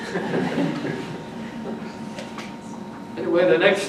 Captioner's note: audience laughs